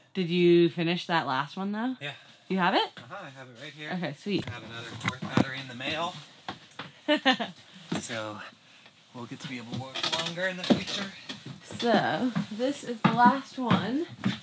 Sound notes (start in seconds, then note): 7.1 chuckles